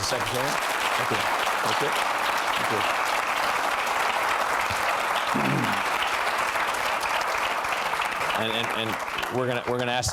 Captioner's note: applause